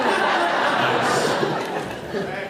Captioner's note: laughs